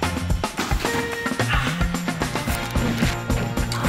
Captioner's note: Ächzen